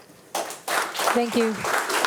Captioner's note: attendees applauding